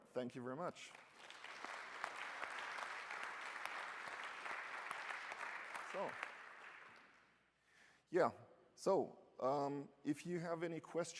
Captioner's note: applause